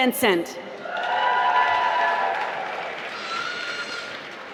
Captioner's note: applause